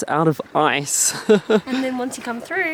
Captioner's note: chuckling